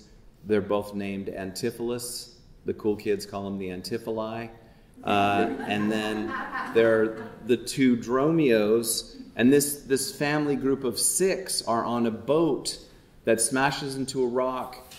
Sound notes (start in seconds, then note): 5.0 audience chuckling